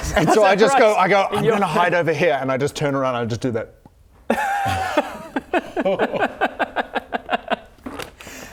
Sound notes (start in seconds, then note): 6.0 audible mocking